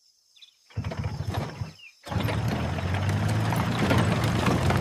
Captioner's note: engine rumbling